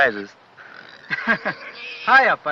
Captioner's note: chuckles